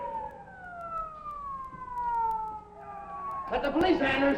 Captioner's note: sirens wailing